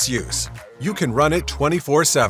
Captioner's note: Arabic; Vietnamese